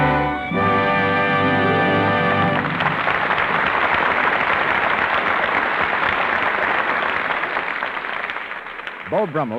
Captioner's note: applause